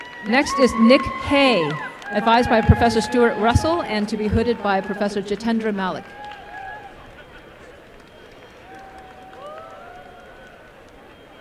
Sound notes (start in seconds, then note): 6.2 applause